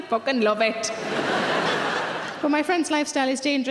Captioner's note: audience laughing